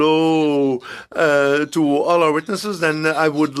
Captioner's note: speaking in French